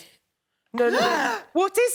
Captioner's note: gasps